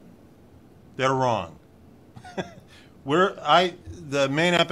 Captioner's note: laughs